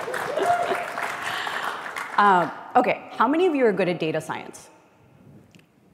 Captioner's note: applause